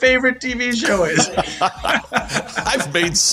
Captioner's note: laughter